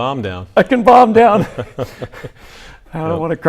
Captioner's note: both laugh